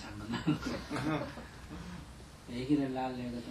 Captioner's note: audience laughter